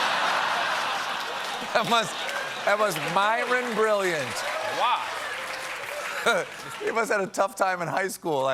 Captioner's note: laughter